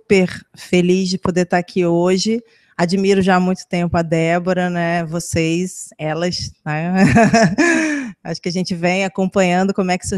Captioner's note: laughs